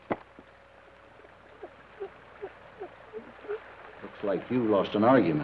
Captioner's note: rocker box squeaks rhythmically